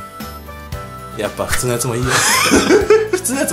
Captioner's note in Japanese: ヒュッ音